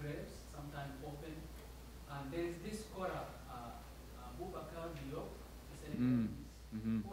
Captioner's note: mumbles